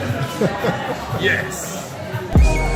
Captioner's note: laughter